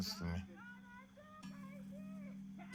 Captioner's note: girl talking outside